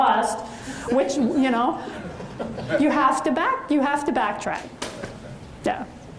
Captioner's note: audience chuckles